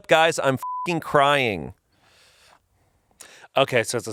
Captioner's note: beep